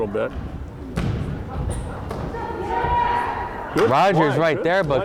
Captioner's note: crowd chattering and yelling